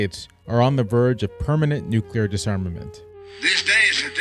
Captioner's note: Russian accent